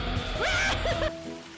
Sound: scream

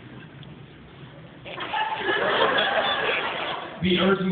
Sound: laughter

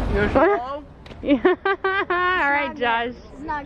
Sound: laughing

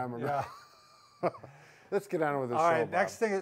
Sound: laughs

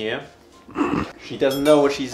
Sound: throat rasping

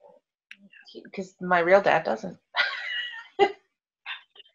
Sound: laughs

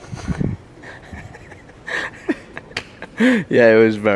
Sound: laughs

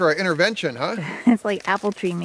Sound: woman laughs

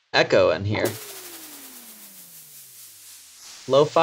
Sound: transition with echoes

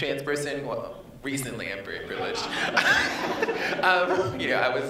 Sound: laughs

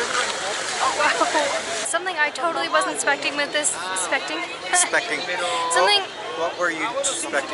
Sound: laughing at mistake

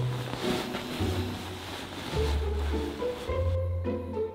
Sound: sleeping bag rustles

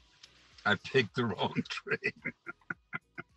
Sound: laughing jokingly

